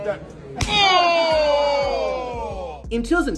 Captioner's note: hard slap sound